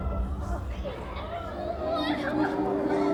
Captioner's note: audience reacts; sobbing